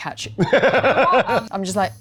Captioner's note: laughing